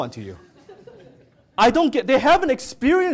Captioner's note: audience laughing